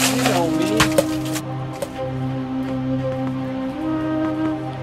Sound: lemons thud softly

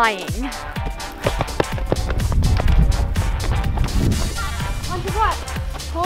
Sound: lively music continues; footsteps

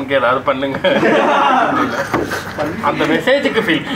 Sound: laughs

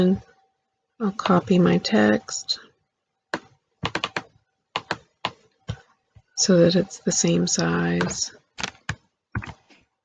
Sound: click

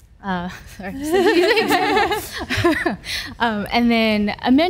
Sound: laughs

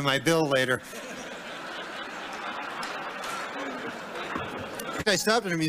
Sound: laughter

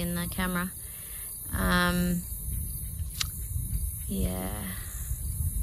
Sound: thinking tut noise

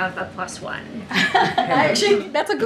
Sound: laughs

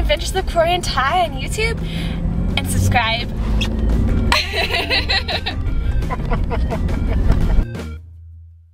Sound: laughs

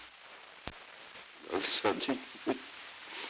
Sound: laughing

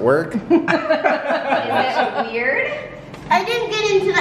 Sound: laughing

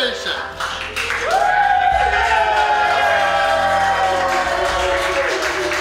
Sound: crowd cheering and clapping

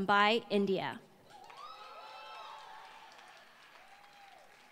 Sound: applause

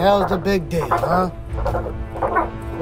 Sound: bird Sounds

